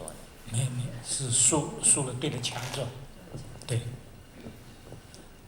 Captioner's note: Mandarin